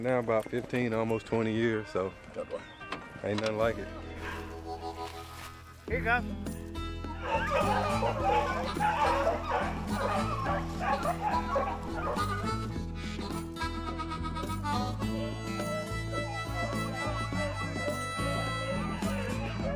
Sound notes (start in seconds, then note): 6.0 bright country music; 7.0 dogs barking